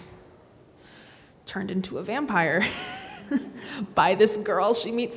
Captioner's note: laughs